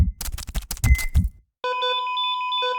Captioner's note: beeping